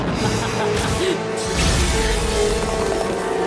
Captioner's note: laughs; whoosh